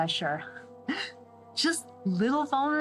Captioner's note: laugh